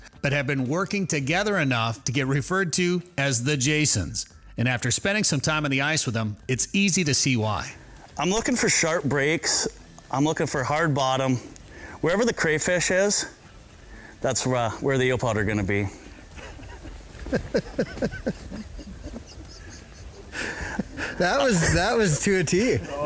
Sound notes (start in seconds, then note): 16.3 laughs